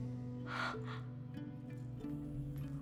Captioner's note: gasp